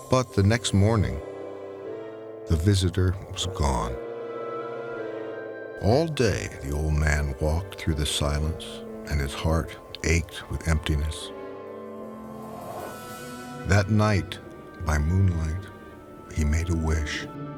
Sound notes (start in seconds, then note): 12.0 wind whooshing